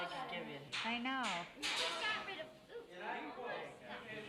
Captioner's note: indistinct chatter